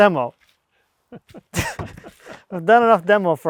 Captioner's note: men laugh